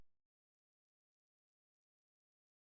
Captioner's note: silence